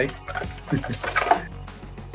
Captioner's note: chuckling